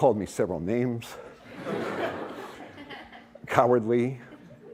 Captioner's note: laughter